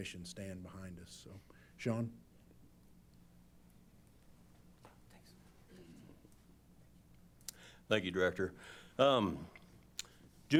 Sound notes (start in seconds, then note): 5.9 whispering